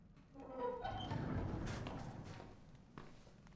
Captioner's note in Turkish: Kapı açılma sesi; Ayak sesi